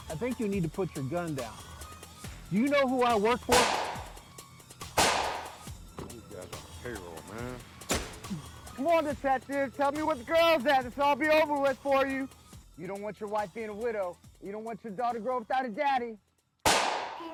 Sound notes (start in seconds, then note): 4.9 gun banging